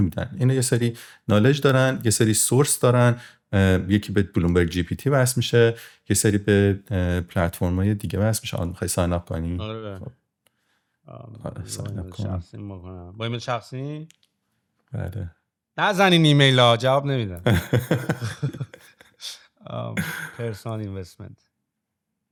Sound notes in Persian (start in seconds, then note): 17.4 خنده